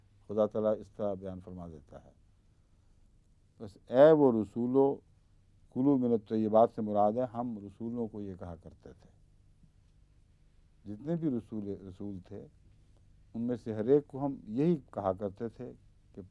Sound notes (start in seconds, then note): 3.7 Arabic